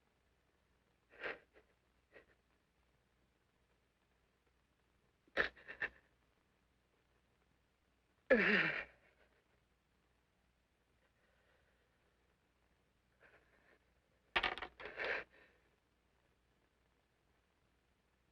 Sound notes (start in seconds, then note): 8.3 groaning